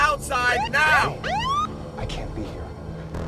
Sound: siren blaring

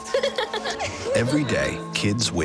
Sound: laughs

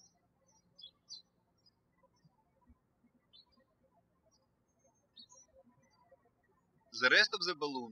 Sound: birds chirping

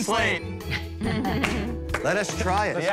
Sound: laughter

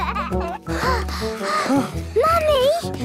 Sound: children giggling; panting

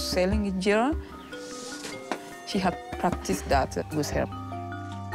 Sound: none

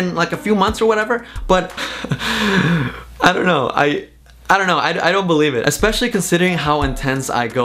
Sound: laughs

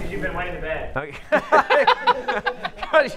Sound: laughter

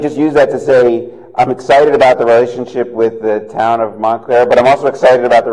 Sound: laughter

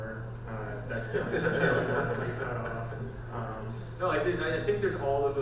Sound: panel laughs

